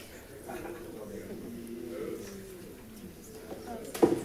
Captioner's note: crowd chatting